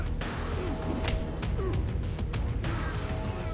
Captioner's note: both grunting; blow thudding; mellow upbeat music